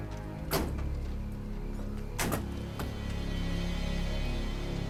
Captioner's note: truck doors slamming